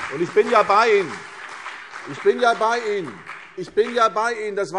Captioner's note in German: Beifall CDU und BÜNDNIS 90/DIE GRÜNEN